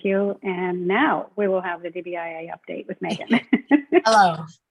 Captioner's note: laughs